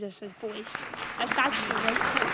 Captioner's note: audience applauds